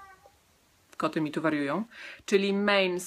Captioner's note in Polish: miauczenie